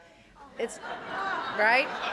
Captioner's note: audience laughing